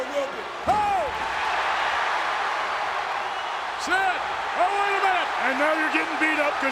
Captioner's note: applause